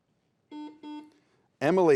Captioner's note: buzzer beeps